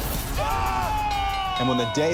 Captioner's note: bell ringing